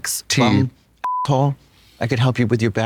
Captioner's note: beep